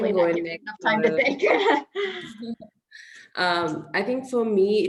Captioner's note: chuckles